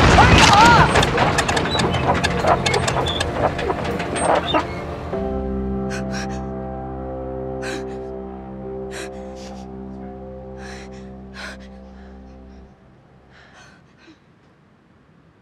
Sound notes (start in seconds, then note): 0.8 engine stops; 5.9 Jackie deep breathing